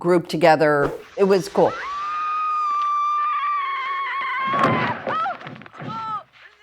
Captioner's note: Laurie screaming; Laurie grunts